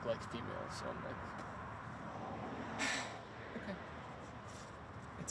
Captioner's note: sighs